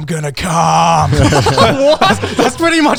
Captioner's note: everyone laughs